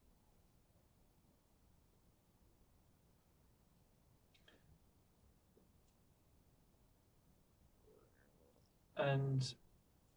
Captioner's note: pauses 8 seconds